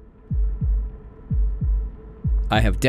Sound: heart beating

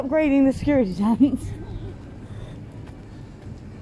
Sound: laughs

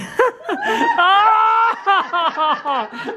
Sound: all laugh

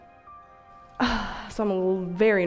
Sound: girl sighs

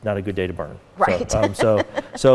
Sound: laughing

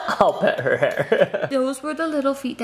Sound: laughing

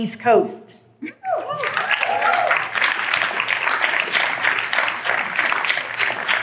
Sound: applause

